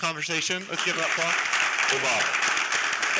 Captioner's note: applause